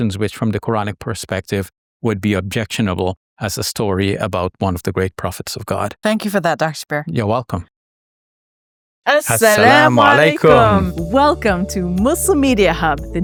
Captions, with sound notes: which from the Quranic perspective, would be objectionable as a story about one of the great prophets of God. - Thank you for that, Dr. Shabir. - You're welcome. (pair speaks a foreign language) - Welcome to Muslim Media Hub,